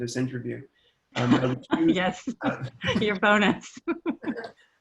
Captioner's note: laughing